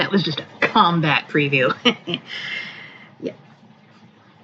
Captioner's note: snickers